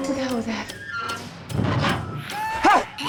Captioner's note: scraping continues; shouts